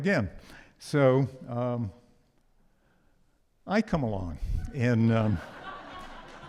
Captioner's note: audience laughs